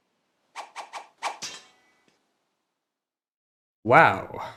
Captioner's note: naginata clatters on the ground